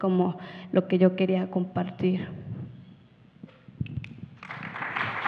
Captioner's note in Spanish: Aplausos